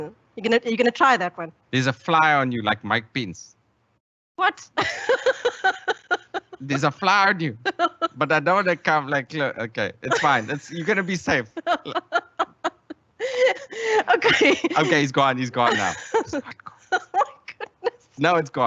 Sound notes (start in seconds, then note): 5.2 laughs; 12.5 continues laughing; 16.5 whispers